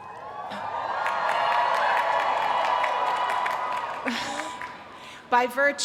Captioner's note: cheering